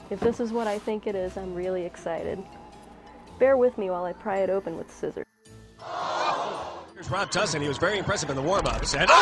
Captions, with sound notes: If this is what I think it is, I'm really excited. Bear with me while I pry it open with scissors. (oohing) - Here's Rob Tussin, he was very impressive in the warmups and-